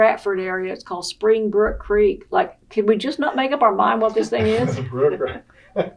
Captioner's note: laughing